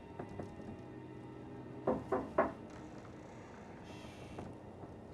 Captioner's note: on frappe doucement à la porte